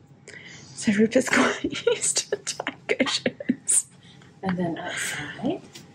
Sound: laughs

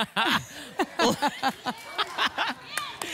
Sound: laugh; audience laughs

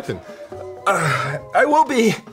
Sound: groans

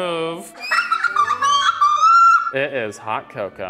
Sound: laughing

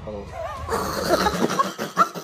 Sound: chuckles

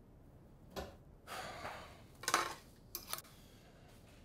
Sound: Matt sighs

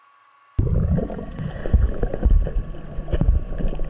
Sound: video recorder hissing; water burbling

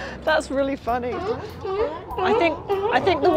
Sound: sea lions barking; laughs

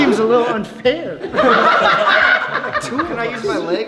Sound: laughing

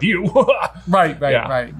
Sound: fakes laughter

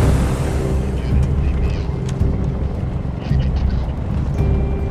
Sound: radio chattering

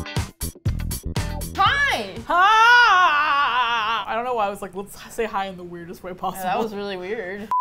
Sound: funky music; throatily

